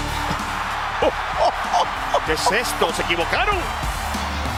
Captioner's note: laugh